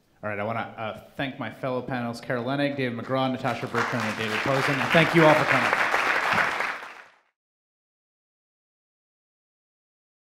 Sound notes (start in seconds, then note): 6.8 applauding